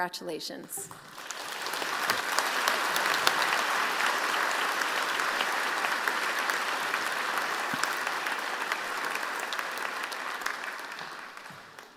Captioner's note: applause